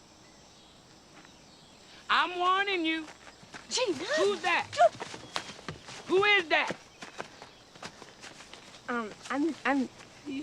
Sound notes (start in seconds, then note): 1.0 birds chirping; 2.3 insects chittering; 8.7 stammering